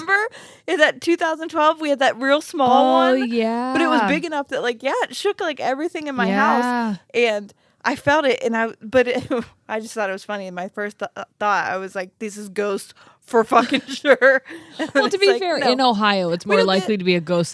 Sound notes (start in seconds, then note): 13.6 laughs